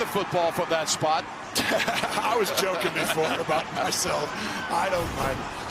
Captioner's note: laughing